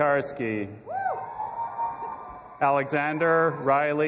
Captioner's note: audience applauding and cheering